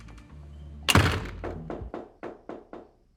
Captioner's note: knocking on door